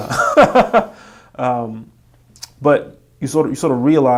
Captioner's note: laughing